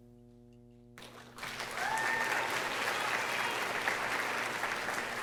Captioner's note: audience applauding